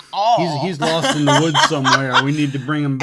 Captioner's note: laughs